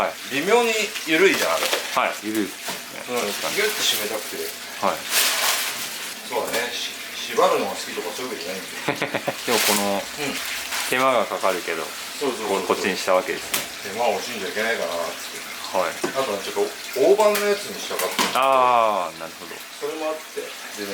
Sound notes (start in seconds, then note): 8.7 laughs